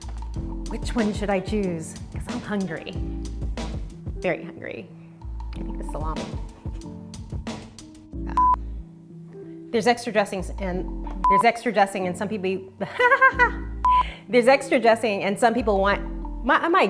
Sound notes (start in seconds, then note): 8.3 beep; 11.2 beep; 13.8 beep